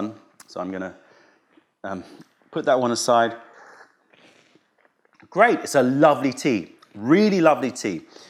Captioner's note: sips tea; sips tea